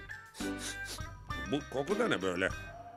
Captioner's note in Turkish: Koklama sesi